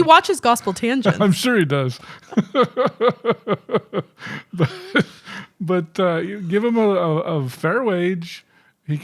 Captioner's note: chuckling